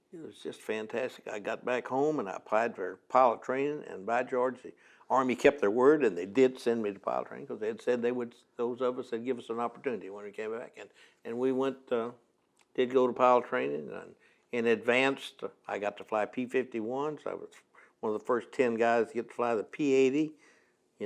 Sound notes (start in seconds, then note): none